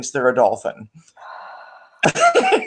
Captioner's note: sighs; laughs